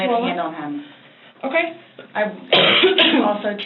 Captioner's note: coughs